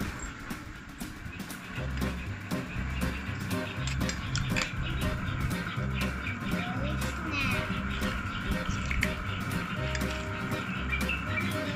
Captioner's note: birds chirping